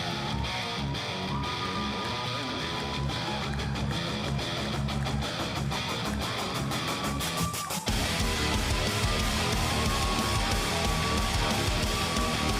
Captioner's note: crowd cheering